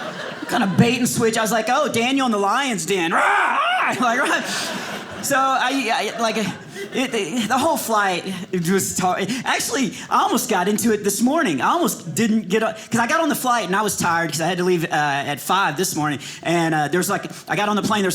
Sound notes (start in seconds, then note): 0.0 audience laughing; 3.2 roars